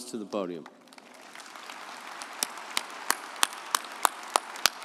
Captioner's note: audience applauding